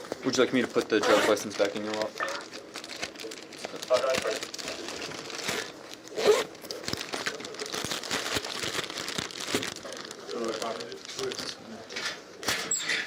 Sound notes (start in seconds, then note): 3.8 radio chatter